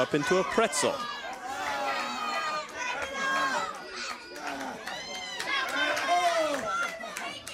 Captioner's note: crowd chatter